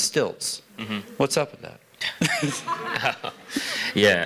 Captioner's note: laughter